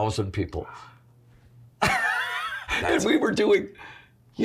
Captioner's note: laughs